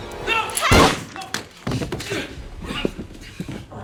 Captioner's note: moaning and groaning